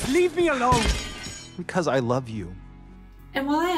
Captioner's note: sword clanging